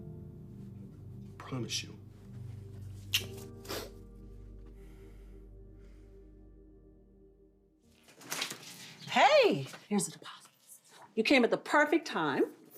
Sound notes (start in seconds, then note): 3.1 lips smack; 3.6 Ava sniffs